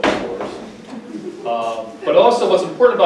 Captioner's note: audience laughs lightly